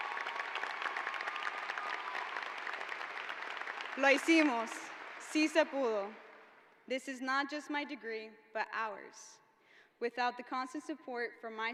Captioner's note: applause